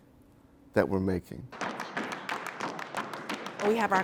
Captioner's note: stomping and clapping